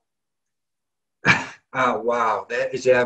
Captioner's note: laughs